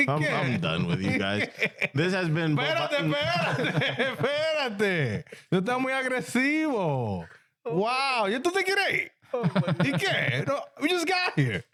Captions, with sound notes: I'm probably done with you guys. This has been-- (Speaking In Foreign Language) Wow, you're doing great. (Laughing) We just got here.